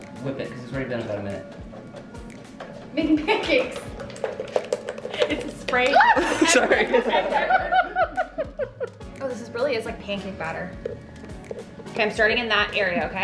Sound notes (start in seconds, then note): 5.9 shrieking; 7.9 laughing